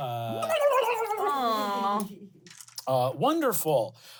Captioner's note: ululating